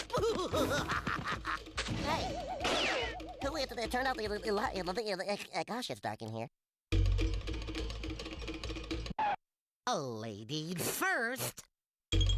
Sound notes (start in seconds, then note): 0.0 laughing; 3.3 Porky stuttering